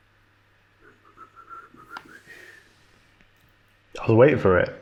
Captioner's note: whistling